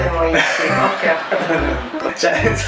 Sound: laughter

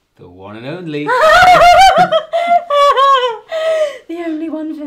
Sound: giggles

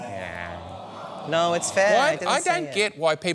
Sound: audience groans

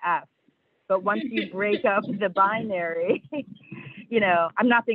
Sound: laughs

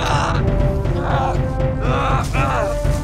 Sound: music crescendos; boy grunts

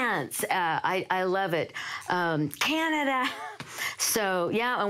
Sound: laughs

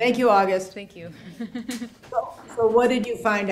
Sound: laughs

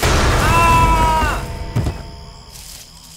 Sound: screaming, Loud thud

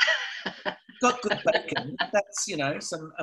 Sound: laughs

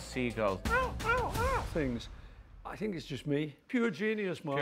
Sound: imitates seagull

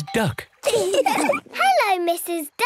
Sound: all laugh

